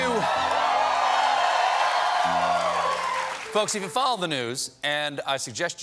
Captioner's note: cheers and applause